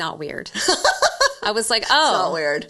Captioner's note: laughing